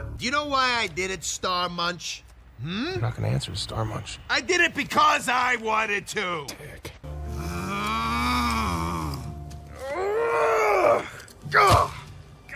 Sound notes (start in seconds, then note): 7.2 rocket grunting